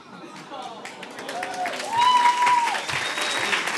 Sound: applause

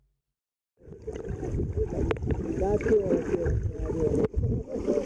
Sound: water rippling

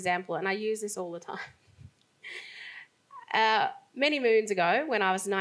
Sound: laughs

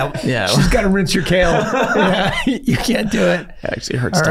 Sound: all laughing

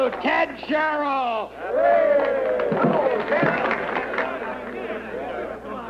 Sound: cheering

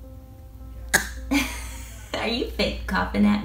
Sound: cough

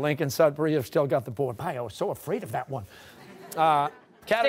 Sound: laughter

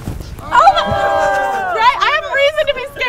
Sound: crowd cheering

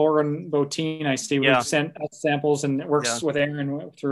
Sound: audio lagging

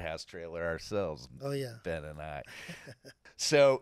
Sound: laughing

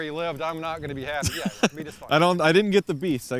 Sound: laughing

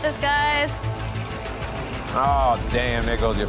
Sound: dramatic music; water splashing

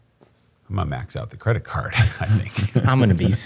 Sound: laughs

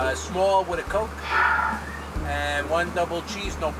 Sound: sighs

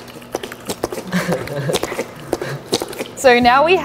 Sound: chuckling

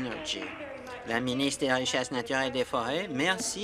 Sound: applause

